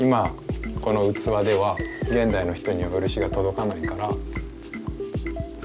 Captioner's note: speaking Japanese